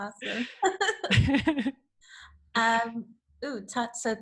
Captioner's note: laughter